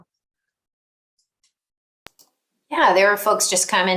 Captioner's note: mouse clicks